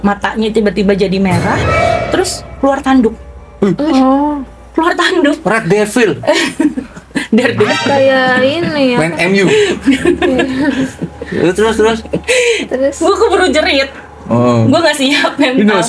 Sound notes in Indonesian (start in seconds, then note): 6.8 tertawa; 11.6 tertawa